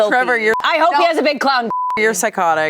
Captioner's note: beep